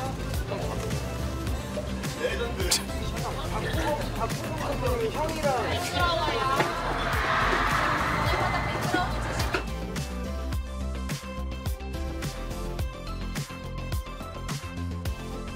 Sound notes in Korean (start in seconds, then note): 1.6 ㅋㅋ